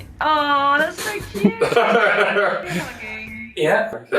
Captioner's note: both laughing